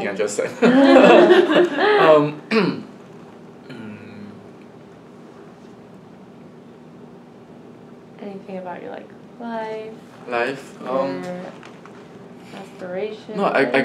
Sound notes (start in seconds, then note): 9.3 all laugh